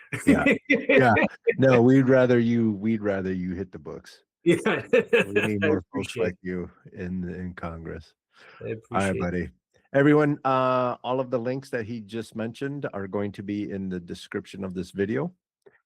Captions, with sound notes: (Laughing) No, we'd rather you hit the books. Yeah. (Laughing) We'd rather you hit the books like you in Congress. I appreciate it. Hi everybody. Everyone, all of the links that he just mentioned are going to be in the description of this video.